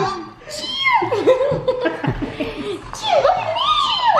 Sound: squeaks

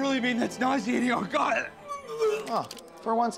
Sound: retching

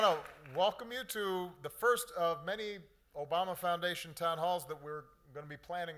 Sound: applause

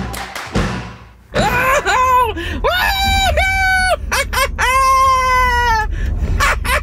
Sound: cackles

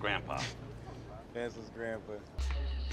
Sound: laughs

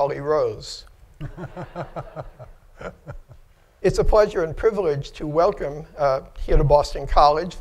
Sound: laughter

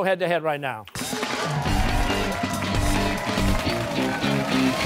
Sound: cheers and applause

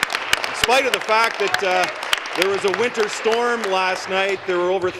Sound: applause

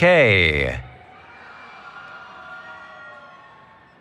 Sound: cheering

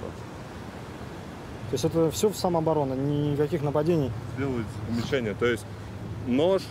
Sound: speaking in foreign language

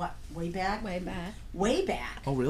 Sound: voiceover

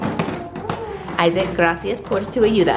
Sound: speaking in foreign language

